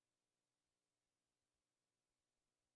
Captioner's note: none